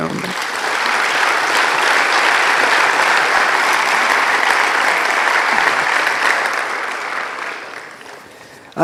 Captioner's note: applause